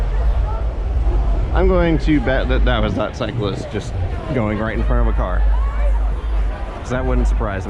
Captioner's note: car horn